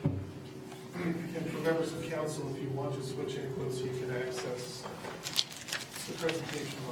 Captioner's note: speaking away from mic